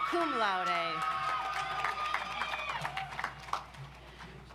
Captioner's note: audience applauds